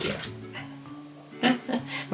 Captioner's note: dog scratching the door